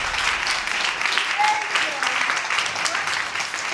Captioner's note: audience applauding